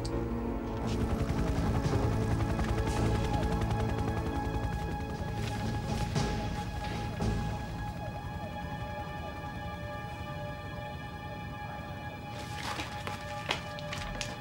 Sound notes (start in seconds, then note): 1.1 helicopter whirring; 3.6 soft tense orchestral music